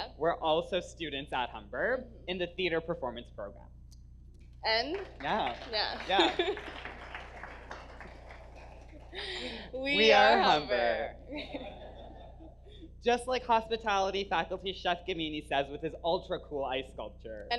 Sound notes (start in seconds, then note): 4.8 laughs; 4.8 audience applause; 11.4 audience laughs